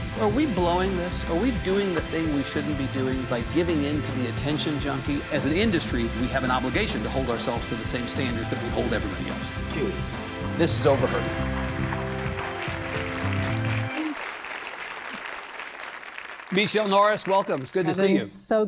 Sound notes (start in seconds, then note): 10.9 audience applauding; 11.0 audience cheering